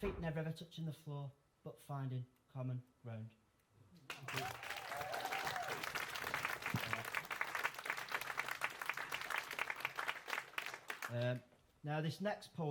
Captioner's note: applause